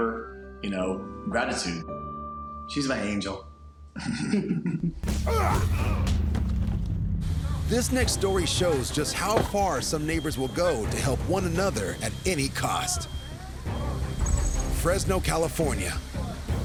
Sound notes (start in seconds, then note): 3.9 both chuckle; 5.1 grunting